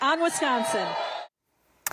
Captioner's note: crowd noise